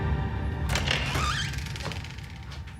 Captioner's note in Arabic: يفتح الباب